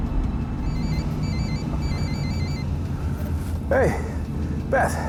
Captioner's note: phone ringing